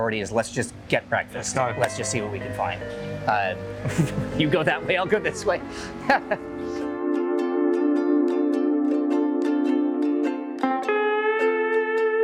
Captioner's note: laughs